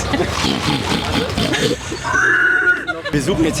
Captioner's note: pigvoice